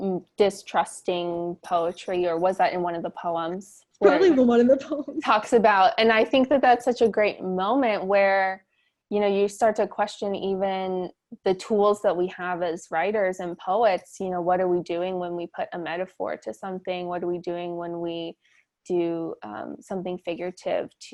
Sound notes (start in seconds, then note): 4.0 chuckles